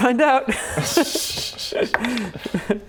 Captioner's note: unconfident giggles